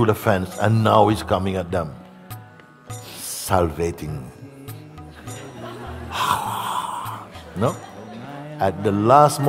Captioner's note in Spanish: risas